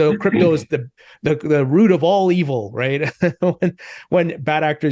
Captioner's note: laughs